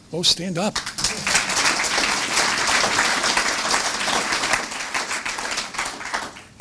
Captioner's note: applause